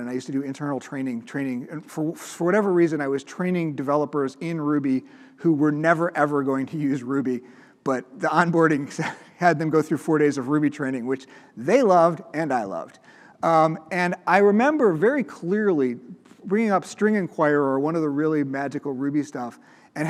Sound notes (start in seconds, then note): 9.0 chuckles